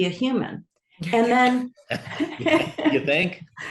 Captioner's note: all laugh